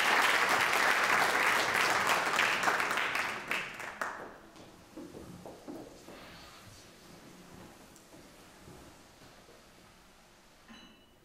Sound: audience applauds

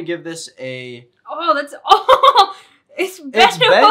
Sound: laughs

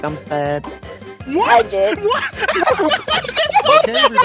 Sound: laughing; start laughing

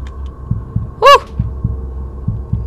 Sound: shouts in surprise

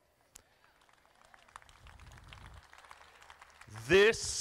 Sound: crowd clapping

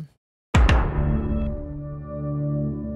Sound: logo slams; intense music

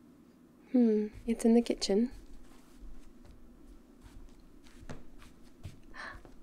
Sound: footsteps; gasps

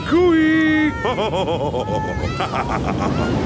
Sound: laughs

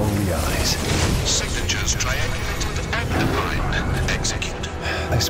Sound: robotic Voice

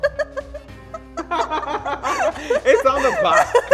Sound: laughs

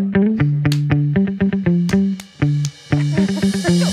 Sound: claps

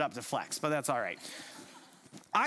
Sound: chuckles

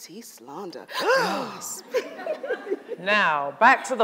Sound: fake gasp; audience laughs

